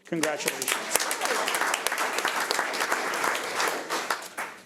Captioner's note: audience applauds